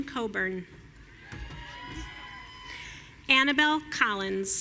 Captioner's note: audience cheering